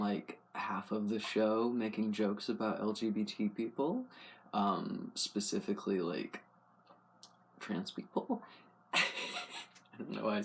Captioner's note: laugh